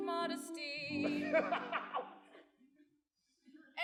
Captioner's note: loud laughter